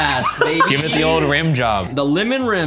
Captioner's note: laughing